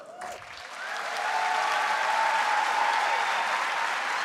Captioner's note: audience cheering